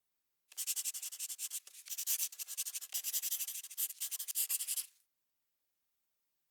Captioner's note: scribbling Pencil